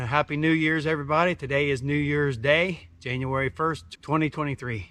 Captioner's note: none